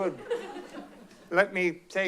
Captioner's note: laughs